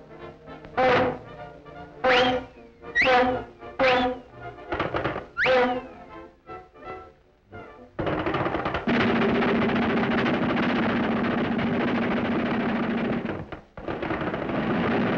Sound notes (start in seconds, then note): 1.6 horn blows; 8.0 thumps and crashes